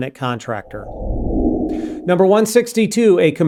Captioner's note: air whooshing